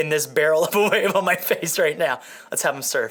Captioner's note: laughing